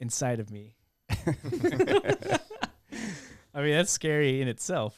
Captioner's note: laughing